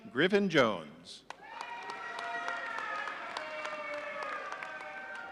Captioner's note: audience cheering